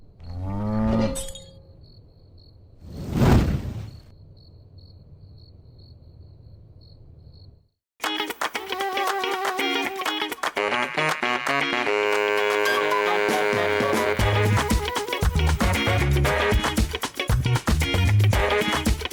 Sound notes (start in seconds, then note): 0.2 cow moos; 1.1 glass shatters; 1.6 crickets chirp; 2.8 logo whooshes; 8.1 upbeat music